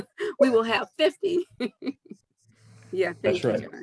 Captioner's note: laughs